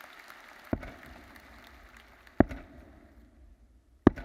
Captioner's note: mace thuds